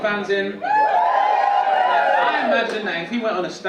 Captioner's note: audience cheering